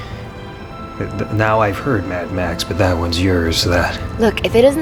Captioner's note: stammers